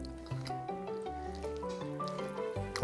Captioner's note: munch, munch